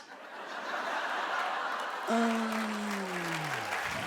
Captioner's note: audience laughs and claps